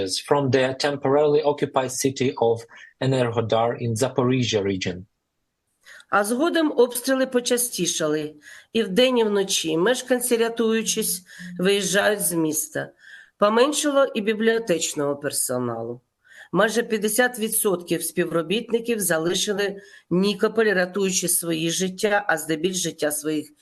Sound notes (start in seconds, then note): 6.4 foreign language